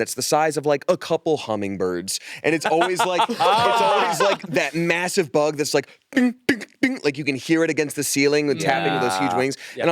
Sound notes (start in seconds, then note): 2.6 laughs